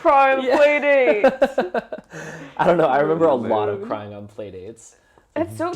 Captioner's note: laugh